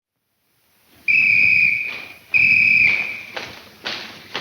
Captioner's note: whistle blowing; feet stomping